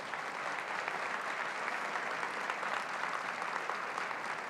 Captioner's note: applause